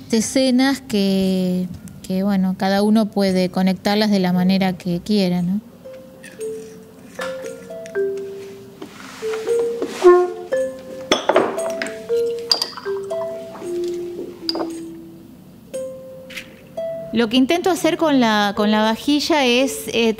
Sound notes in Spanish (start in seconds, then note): 5.8 música guitarra suave; 11.0 golpe vidrio sobre mesa